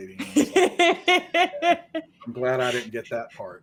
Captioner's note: laughing